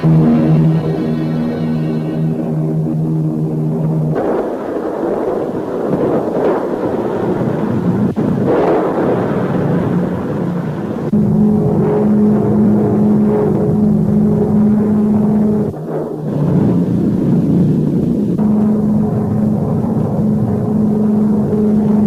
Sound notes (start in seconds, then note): 0.2 plane engines revving; 5.1 explosions booming; 11.3 plane engine revving; 16.1 explosion booming; 18.3 plane engine revving